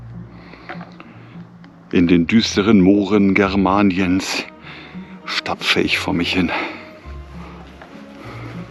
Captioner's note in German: Mit dramatischer Stimme